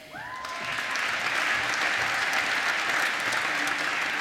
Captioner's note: applause